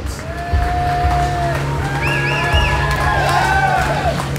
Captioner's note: cheering